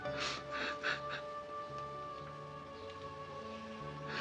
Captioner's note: Ira sobbing